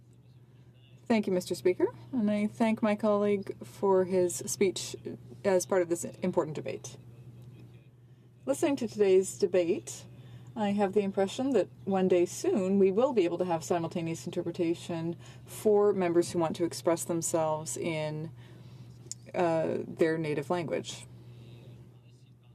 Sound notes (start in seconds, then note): 4.6 speaking French